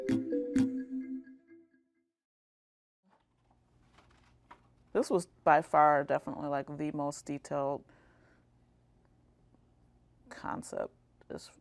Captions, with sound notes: (music stops) This was by far definitely, like, the most detailed concept just painting-wise